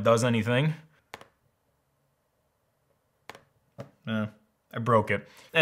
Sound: keyboard clattering

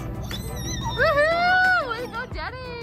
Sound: children exclaiming

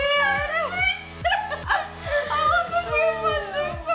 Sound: laughs

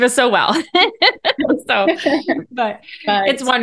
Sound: both laughing

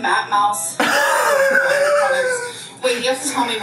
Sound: laughing

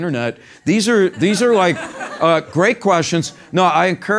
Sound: laugh

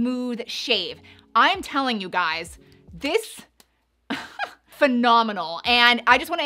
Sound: chuckles

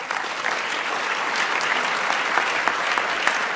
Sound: applause

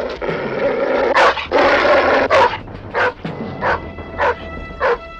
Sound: dog barking viciously

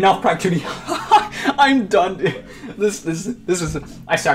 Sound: laughs In Relief

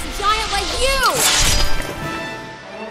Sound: slash

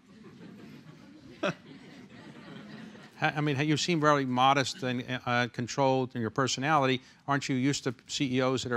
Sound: laughs

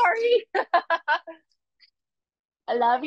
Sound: laughs

